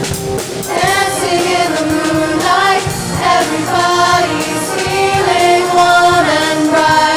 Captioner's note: audience cheering